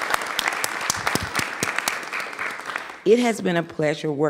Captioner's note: applause